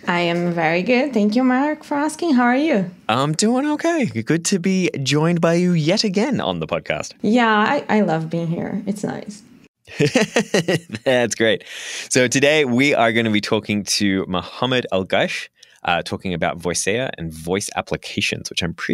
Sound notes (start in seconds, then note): 9.9 laughs